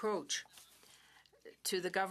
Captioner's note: speaking French